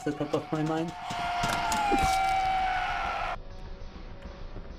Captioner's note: crowd cheering